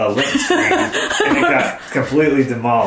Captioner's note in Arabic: أمي تضحك